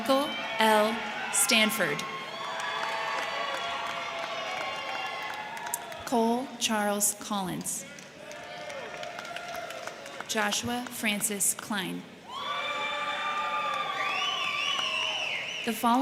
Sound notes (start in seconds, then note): 2.0 crowd clapping; 2.2 crowd cheering; 7.8 crowd clapping; 7.8 crowd cheering; 12.2 crowd cheering; 12.3 crowd clapping